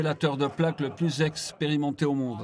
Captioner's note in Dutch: publiek lacht